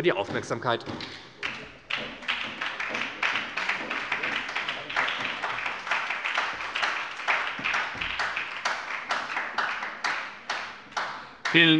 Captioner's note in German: Beifall bei der SPD